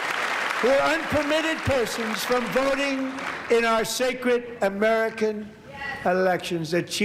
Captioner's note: applause